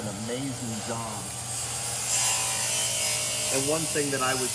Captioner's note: metal continues grinding